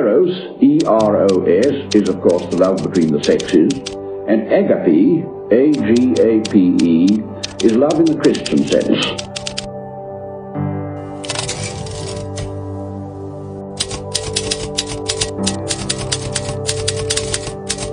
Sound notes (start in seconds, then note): 11.0 gentle instrumental music; 13.8 typewriter tapping